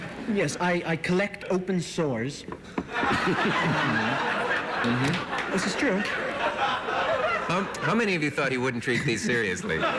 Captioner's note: laughter